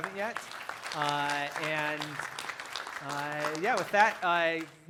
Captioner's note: applause